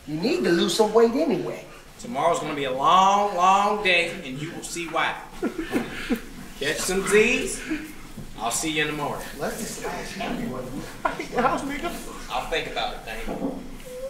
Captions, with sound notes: You need to lose some weight anyway. Tomorrow’s gonna be a long, long day and you will see why. [sobbing] Catch some Z’s! I’ll see you in the morning. Let’s just lash everybody. I’ll think about it, Damien.